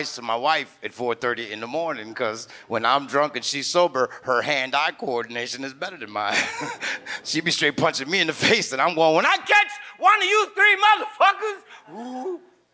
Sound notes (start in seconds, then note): 6.3 laughs